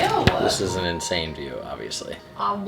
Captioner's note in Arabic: none